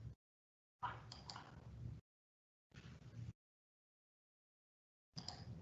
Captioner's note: mouse clicking